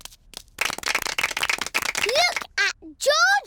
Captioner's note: applause